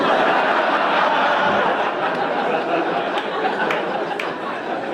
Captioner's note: audience laughing